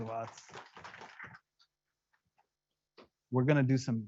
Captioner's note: audience applauding